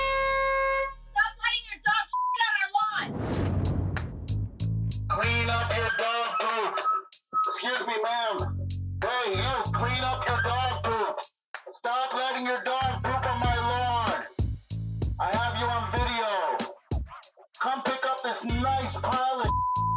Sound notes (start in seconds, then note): 5.5 over megaphone